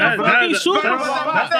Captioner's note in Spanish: Hablando en idioma extranjero